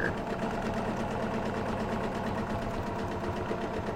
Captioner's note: sewing machine hums